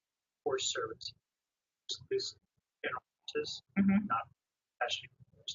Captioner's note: man speaks through warped and choppy audio